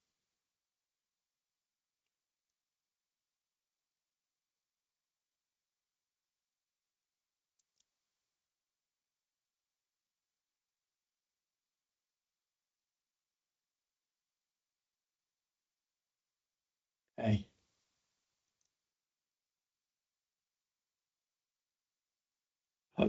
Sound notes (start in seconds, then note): 0.2 silence